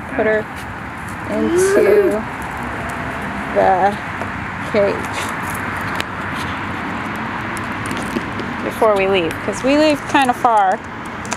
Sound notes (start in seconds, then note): 1.3 excitement